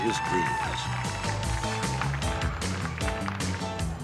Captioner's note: cheers and applause